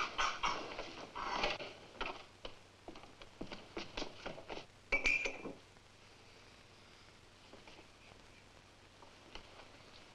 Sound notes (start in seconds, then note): 4.9 glass clinks